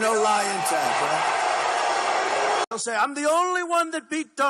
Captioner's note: booing